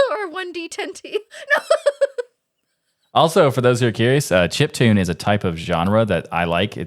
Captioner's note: laughing